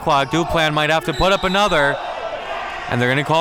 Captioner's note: whistle blows